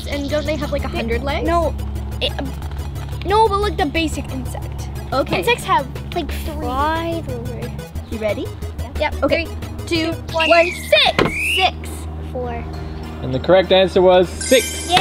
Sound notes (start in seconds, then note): 10.3 whistle blows